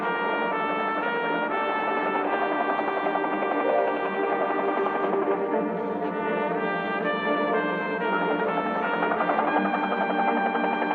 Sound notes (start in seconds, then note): 2.3 helicopter whirring